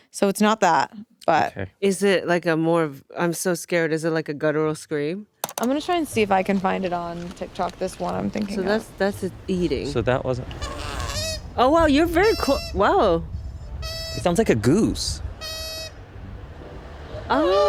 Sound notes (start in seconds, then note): 10.6 koala squeaking; 15.5 koala squeaking